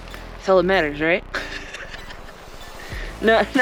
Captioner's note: laughing